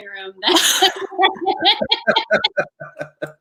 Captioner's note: laughing